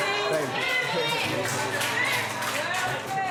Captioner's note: cheering